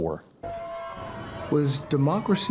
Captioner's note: audience cheering